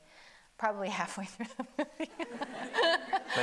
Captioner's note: audience laughing; laughs